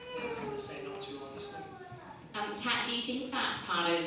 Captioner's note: baby cries